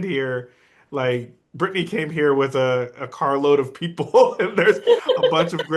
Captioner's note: laughs